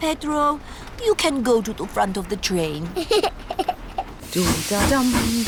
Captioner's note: giggles